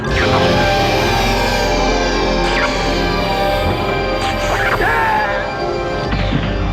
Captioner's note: electric buzzing; screams